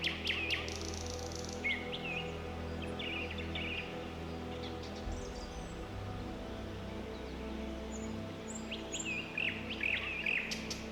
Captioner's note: birds chirping